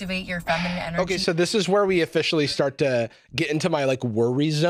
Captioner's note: sighs